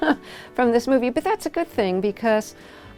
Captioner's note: laughter